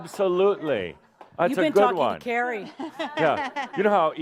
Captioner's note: laughs